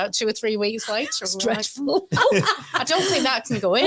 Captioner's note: laughs